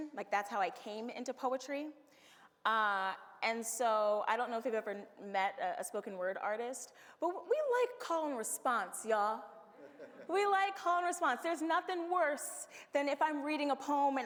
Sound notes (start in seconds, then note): 9.8 audience laughs